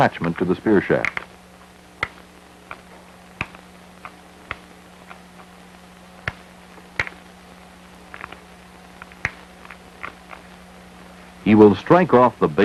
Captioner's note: sound of antler chipping off stone